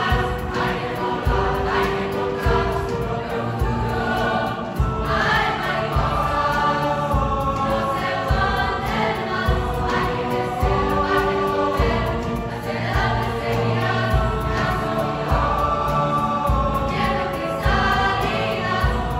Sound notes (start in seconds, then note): 0.0 voices